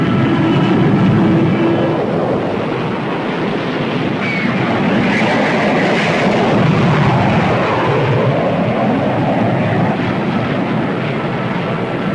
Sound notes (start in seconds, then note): 3.3 plane whooshing; 6.8 explosions booming